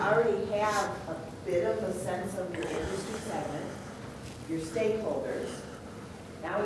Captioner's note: voice muffled